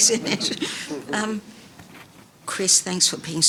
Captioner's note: panellist laughing